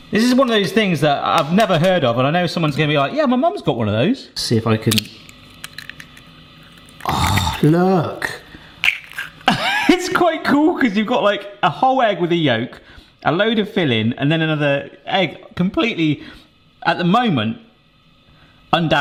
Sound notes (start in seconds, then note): 4.8 crack